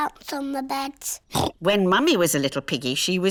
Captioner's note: oinks